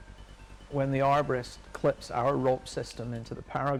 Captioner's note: voiceover